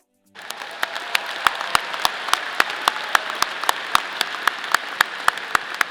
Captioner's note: audience applauding